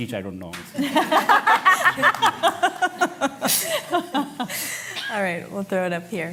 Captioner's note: laughter